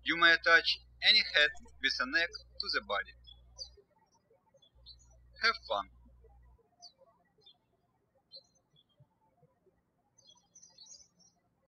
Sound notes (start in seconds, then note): 4.4 birds chirping